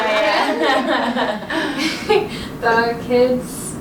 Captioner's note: laughter